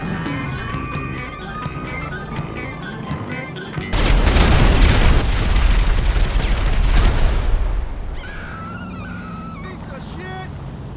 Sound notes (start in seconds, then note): 3.9 explosions galore; 8.1 screaming